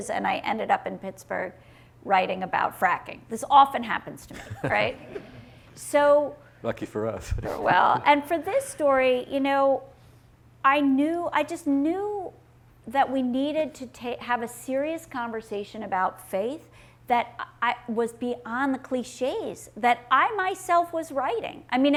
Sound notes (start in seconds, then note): 4.3 laughing; 4.4 audience laughing